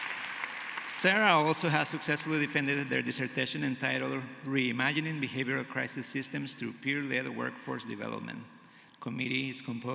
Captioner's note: cheering and applause